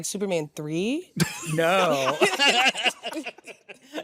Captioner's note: laughter; laughs